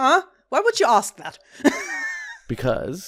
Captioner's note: laughs